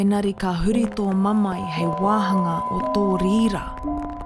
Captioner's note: foreign language